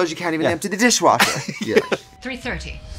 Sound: laughing

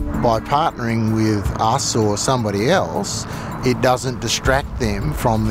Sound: voiceover

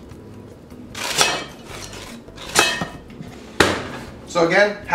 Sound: metal clanging

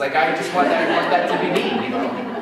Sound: laughter

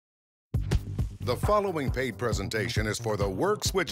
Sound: voiceover

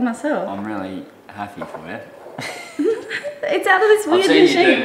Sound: laughs

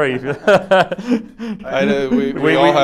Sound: laughs

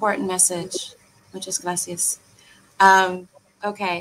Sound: speaking in foreign language

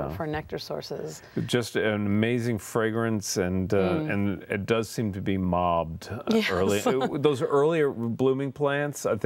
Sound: laughter

